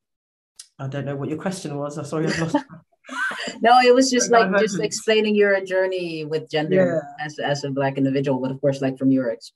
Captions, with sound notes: I don't know what your question was? Sorry I've lost it! (laughs) No, it was just like, just explaining your journey with gender as a black individual but of course like from your exp-,